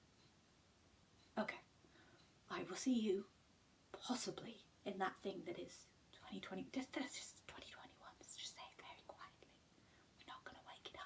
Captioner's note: whispers